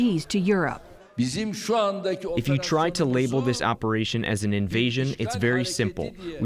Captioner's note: through translator